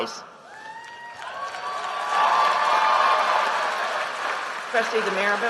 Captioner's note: applause